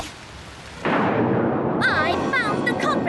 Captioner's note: thunderclap